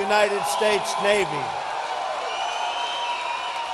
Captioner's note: applause